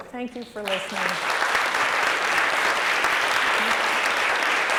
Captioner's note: applause